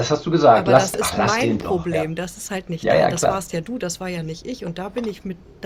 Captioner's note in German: räuspern